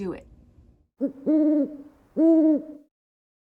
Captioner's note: owl calls